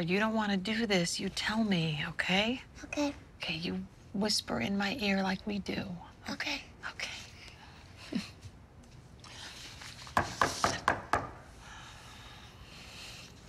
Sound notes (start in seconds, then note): 10.2 knocking